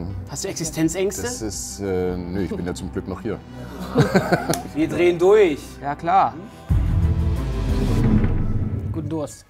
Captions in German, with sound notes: Hast du Existenzängste? Nee, ich bin ja zum Glück noch hier. (Lachen) Wir drehen durch. - Ja, klar. (Spannungsvolle Musik) Guten Durst.